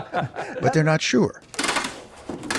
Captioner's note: laughter